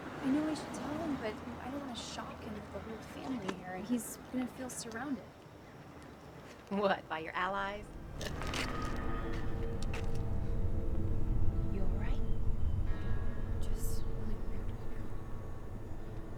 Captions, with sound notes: I know I should tell him but I don't want to shock him with the whole family here, and he's gonna feel surrounded. - What, by your allies? (laughing) (dramatic music) You all right? - Just really weird right now.